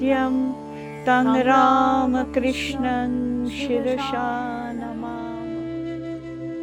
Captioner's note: chanting